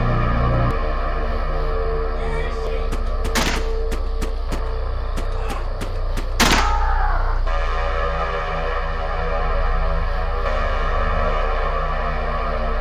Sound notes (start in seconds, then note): 3.3 pistol firing repeatedly, Connie's revolver shoots once; 6.4 Connie's revolver fires, Roy screams